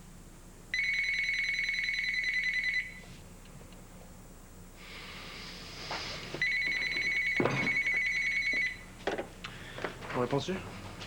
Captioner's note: Le téléphone sonne